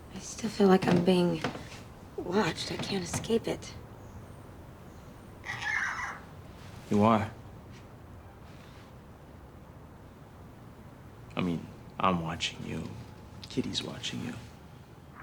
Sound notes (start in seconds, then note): none